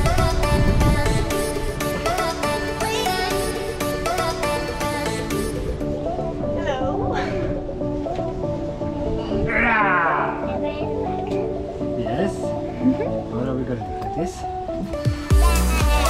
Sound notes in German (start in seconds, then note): 1.4 helle Tanzmusik; 9.4 brüllt